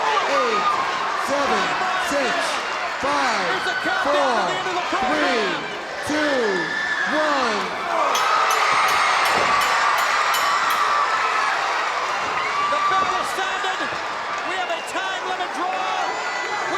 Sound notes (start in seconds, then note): 7.3 crowd cheering; 8.1 bell dinging